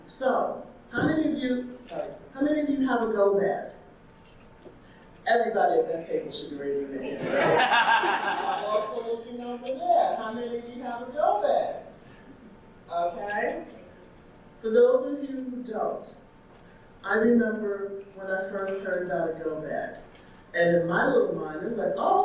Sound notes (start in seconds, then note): 7.1 audience laughing